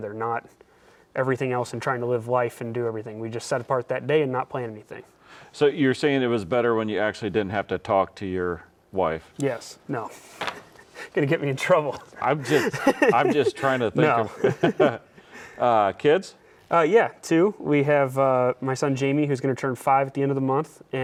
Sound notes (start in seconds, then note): 10.4 laughs